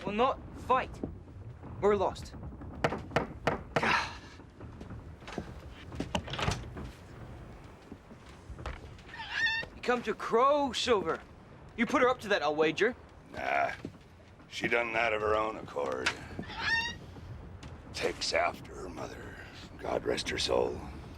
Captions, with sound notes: - We'll not fight! We're a lost. (knocking) - God. (Captain Flint squawking) - You've come to crow, Silver? You put her up to that, I'll wager. - Nah, she done that of her own accord. Takes after her mother, God rest her soul.